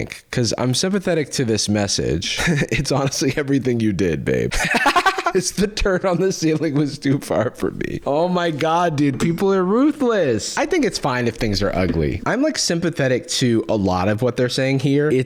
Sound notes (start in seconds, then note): 4.8 cackling